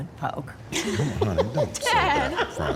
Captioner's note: laughter